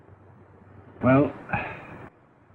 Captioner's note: sighs